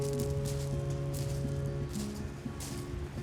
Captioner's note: gravel sounds under feet